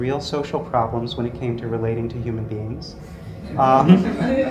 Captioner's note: laugh